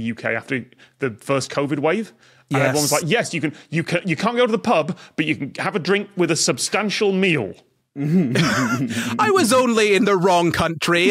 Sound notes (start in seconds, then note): 8.2 snickers; 8.3 cracks up